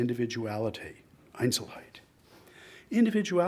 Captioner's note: speaks in foreign language